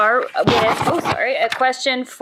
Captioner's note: electronic microphone scratching